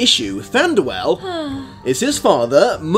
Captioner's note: sighs blissfully again